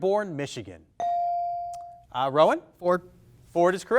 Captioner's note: bell dings